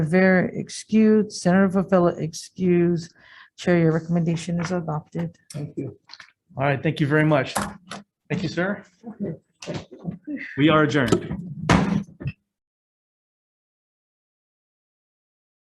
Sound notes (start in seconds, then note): 11.7 gavel strikes